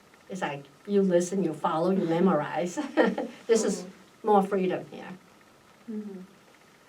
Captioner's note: laughs